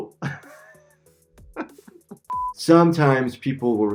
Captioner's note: laughing